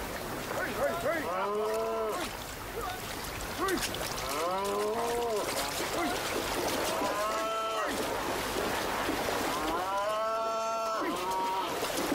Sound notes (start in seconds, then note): 3.6 water splashing